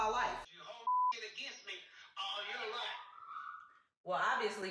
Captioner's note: beep